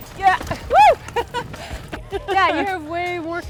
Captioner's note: laughing